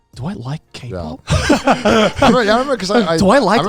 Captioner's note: all laughing